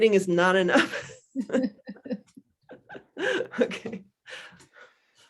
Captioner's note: laughs